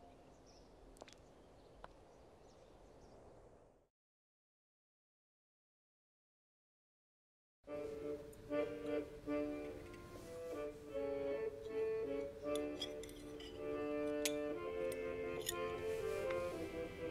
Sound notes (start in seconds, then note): 0.0 birds chirping; 7.7 upbeat instrumental music; 12.5 cutlery clattering